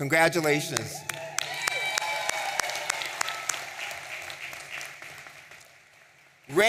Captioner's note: audience cheering and applauding